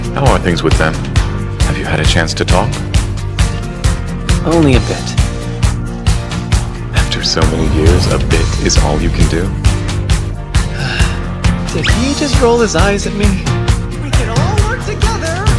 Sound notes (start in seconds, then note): 10.6 sigh